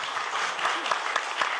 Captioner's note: applause